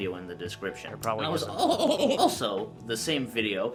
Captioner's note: "also" stuttering